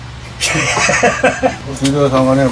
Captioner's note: laughs